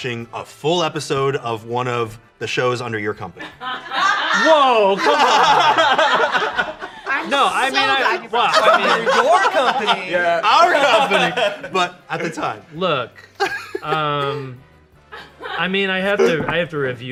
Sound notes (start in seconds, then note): 3.5 everyone laughs